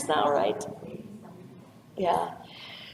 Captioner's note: audience member speaks off-microphone